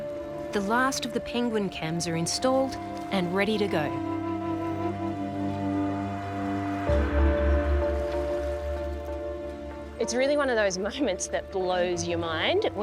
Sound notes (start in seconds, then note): none